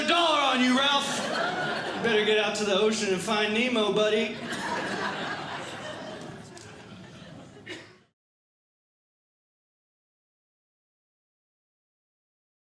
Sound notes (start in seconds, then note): 4.2 audience Laughing